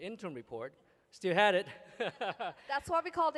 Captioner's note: laughter